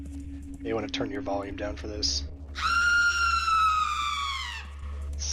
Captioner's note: loud scream